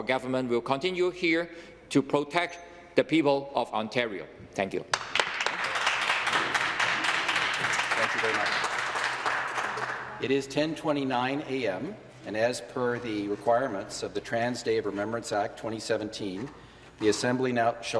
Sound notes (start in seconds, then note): 9.3 some Applause